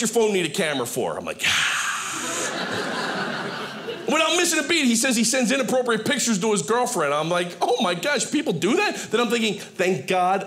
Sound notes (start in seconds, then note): 2.1 audience laughing